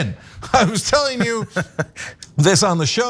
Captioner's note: laugh